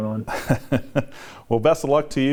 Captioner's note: chuckling